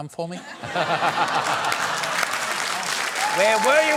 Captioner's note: laughter